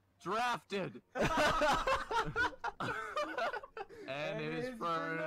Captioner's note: laughter